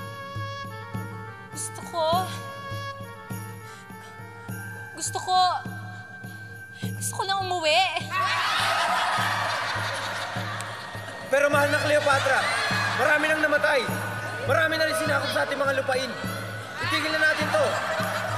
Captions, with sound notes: I want to... I want to... I want to return home. [laughter] My beloved Cleopatra, many among us has died. A lot of our lands have been conquered. Let us stop this.